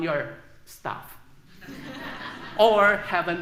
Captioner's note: laughter